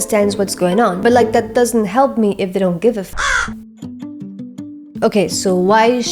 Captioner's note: caw